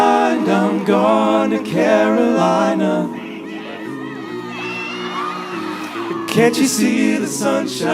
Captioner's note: cheers and applause